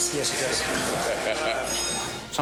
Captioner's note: laughing